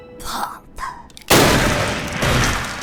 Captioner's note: bang